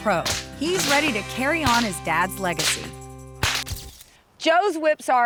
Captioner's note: whip crack; whip crack